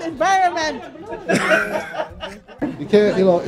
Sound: people laughing

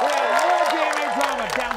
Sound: audience applauding

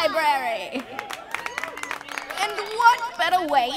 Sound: cheers; applause

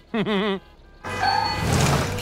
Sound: chuckles; honking

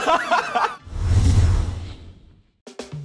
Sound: laughter; swoosh

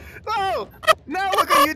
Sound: yell falling

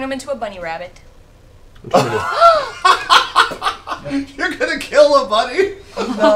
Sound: laughs

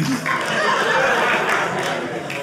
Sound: audience laughing

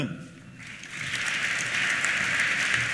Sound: applause

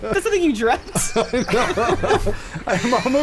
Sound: laughing

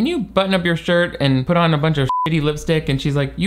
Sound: beep

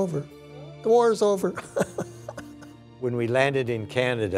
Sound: laughs

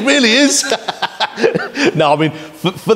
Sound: laughs

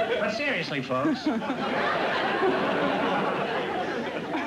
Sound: laughter

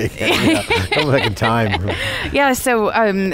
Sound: laughing

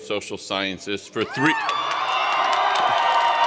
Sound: cheers and Applause

